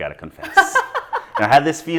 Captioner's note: laughing